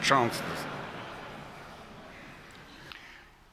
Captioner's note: laughter